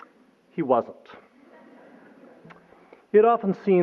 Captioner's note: laughter